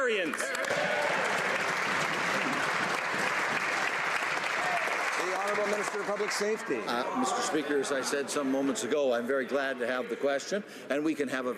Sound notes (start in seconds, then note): 3.5 some Applause